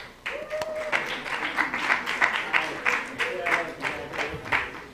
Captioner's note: applause